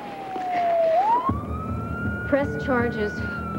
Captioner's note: siren